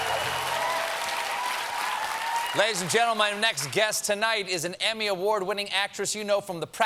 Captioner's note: cheers and applause